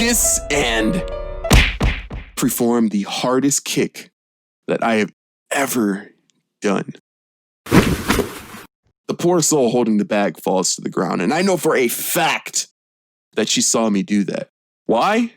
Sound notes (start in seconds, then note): 1.4 bam; 6.0 thud